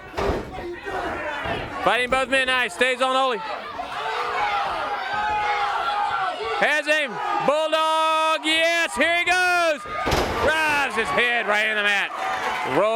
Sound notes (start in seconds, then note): 1.1 crowd cheering; 2.9 crowd chatter; 9.9 crowd cheering